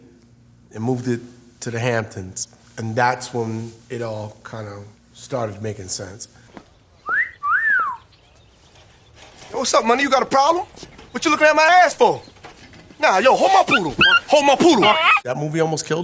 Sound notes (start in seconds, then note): 7.0 flirty whistle; 8.9 in a deep voice; 13.5 dog whimpering